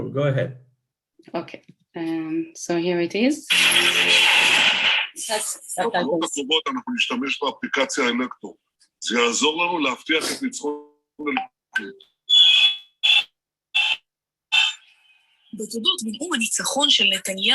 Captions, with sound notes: - Go ahead. - Okay. So here it is. (speaking in foreign language)